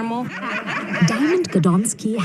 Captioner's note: laud laughter